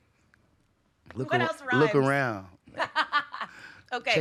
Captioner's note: laughing